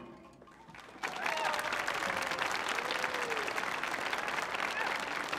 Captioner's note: audience applauding